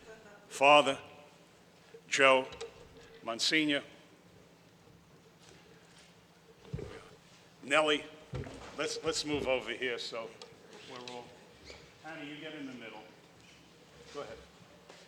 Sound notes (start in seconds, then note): none